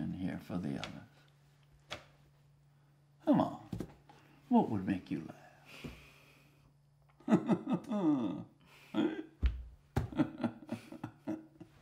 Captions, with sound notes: in here for the others. Come on, what would make you laugh? (laughing)